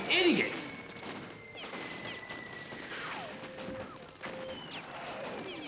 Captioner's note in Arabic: أصوات اللعبة